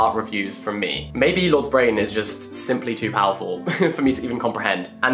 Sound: chuckles

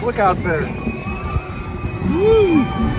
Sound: excited noise

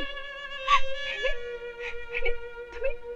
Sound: sobbing

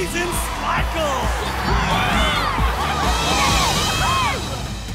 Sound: cheering

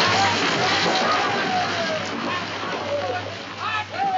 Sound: soldiers shouting

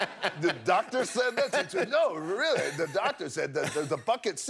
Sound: laughter

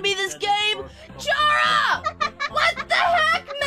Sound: hahahaha!

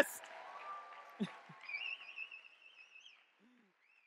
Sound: audience clapping and cheering

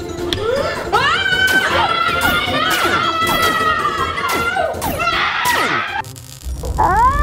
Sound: all screaming; lasers blasting

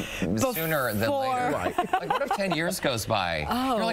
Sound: laughter

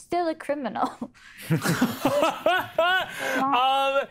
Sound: cast laughs

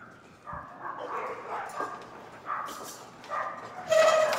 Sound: dogs barking

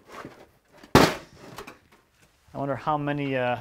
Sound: tin thuds

